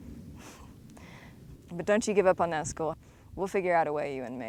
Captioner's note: chuckles